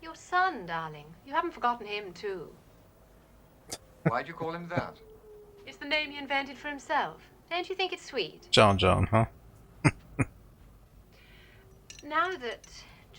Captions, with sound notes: [Laughing] John John, huh? [Chuckling]